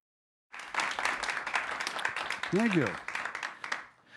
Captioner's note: audience applauding